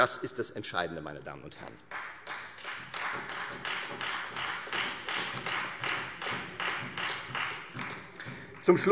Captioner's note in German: Beifall Freie Demokraten und vereinzelt SPD